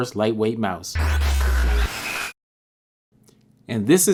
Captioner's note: robotic noise